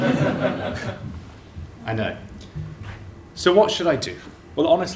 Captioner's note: laugh